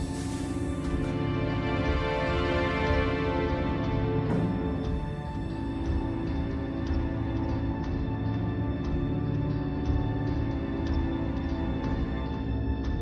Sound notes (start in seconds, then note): none